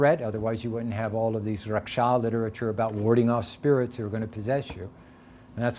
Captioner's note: none